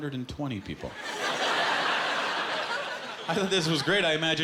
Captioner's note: laughter